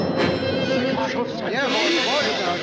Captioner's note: all exclaiming